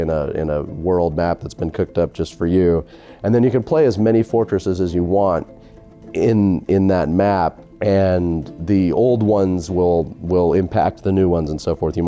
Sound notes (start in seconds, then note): none